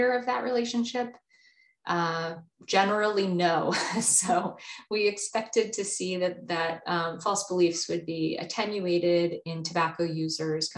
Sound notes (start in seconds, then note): 4.2 chuckles